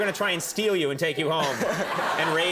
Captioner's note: crowd laughs